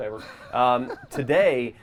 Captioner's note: others laugh